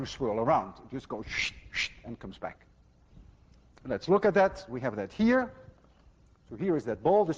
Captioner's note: makes whooshing sound